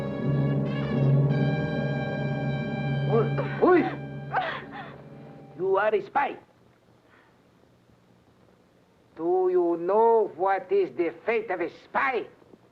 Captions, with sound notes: (dramatic music) (Pilar cries out) - You are a spy. Do you know what is the fate of a spy?